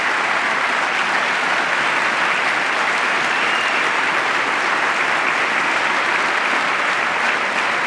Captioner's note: applause